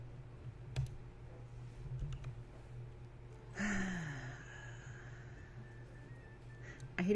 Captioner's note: drawn-out sigh